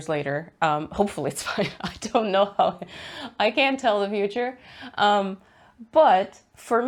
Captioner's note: laughs